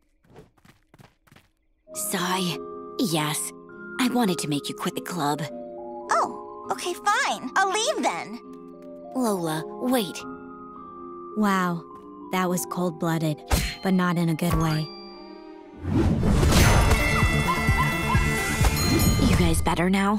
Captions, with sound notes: Sigh. Yes. I wanted to make you quit the club. Oh. Okay, fine. I'll leave then. Lola, wait. Wow, that was cold-blooded, but not in a good way. [music playing, screaming] [dinging] You guys better now?